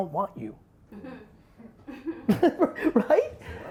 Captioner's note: laughs